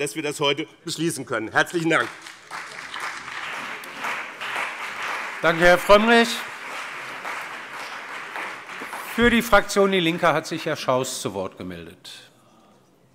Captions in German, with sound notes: dass wir das heute beschließen können. - Herzlichen Dank. [Beifall BÜNDNIS 90/DIE GRÜNEN und CDU] Danke, Herr Frömmrich. - Für die Fraktion DIE LINKE hat sich Herr Schaus zu Wort gemeldet.